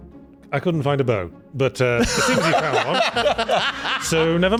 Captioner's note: laughter